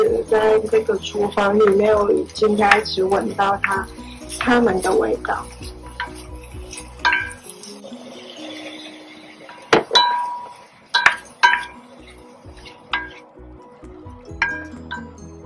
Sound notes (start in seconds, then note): 7.7 sound of stir-frying; 9.3 pouring water; 13.2 sound of stir-frying